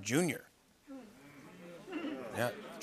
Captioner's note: audience murmurs